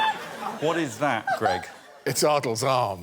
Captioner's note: laughter